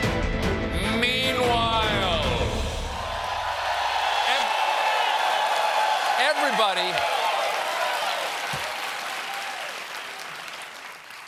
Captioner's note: cheers and applause